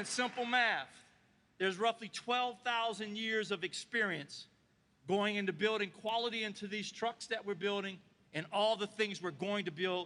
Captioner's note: applause